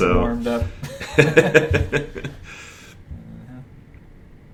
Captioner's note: laughter